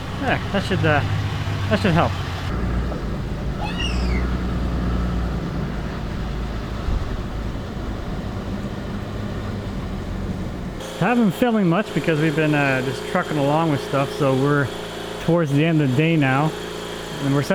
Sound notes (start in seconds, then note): 3.6 child squealing